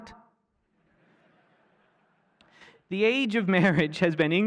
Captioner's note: laughter